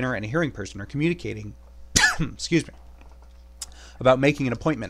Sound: coughs

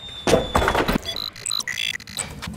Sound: door kicked in; robotic beeps

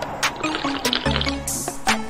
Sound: slurp

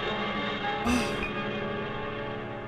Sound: sighs

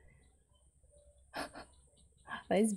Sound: laughs

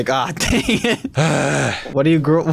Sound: groans

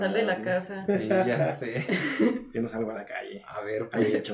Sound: laughter

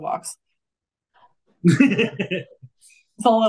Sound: faintly speaking; chuckling

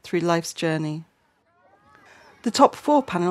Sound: children playing in distance

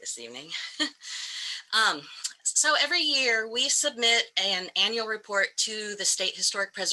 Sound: laughter

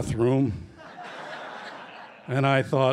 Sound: laughter

